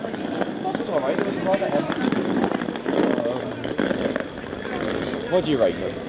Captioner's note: bus engine